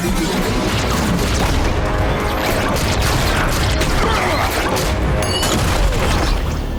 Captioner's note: lasers blasting